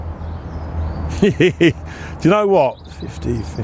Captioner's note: laughs